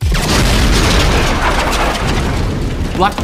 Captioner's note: grenade exploding